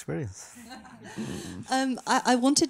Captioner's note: people laughing